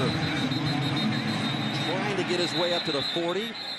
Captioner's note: whistle blows